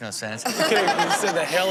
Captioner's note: audience laughs